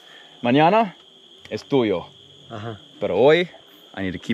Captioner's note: speaking in foreign language